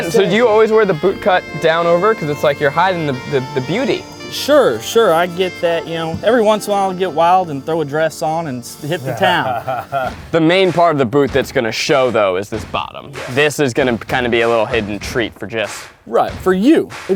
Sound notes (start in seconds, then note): 8.8 Eugene laughs